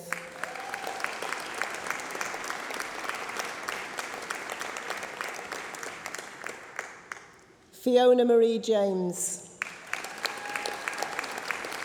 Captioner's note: applause